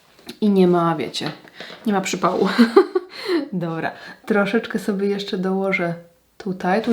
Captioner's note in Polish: śmiech